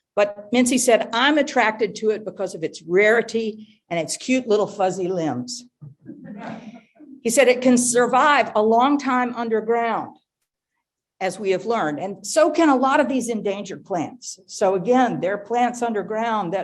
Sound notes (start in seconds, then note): 6.2 audience laughing